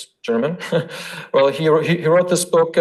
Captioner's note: laughs